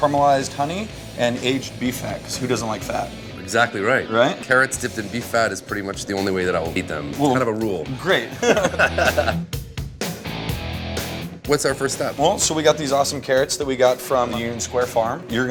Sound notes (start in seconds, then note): 8.2 laughing; 9.9 hard rock music